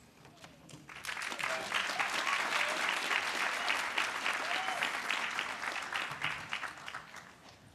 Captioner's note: applause